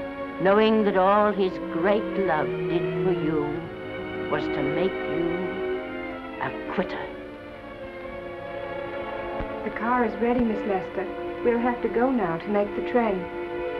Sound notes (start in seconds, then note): none